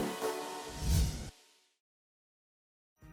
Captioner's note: whoosh